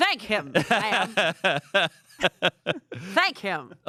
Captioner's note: laughs